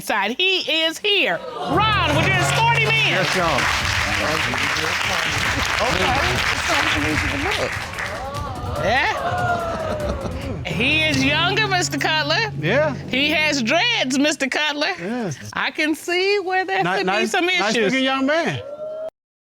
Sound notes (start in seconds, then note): 3.6 audience exclaims; 4.4 indistinct chatter; 8.1 audience exclaims; 9.8 laughing